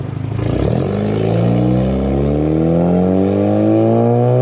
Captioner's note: car engine revving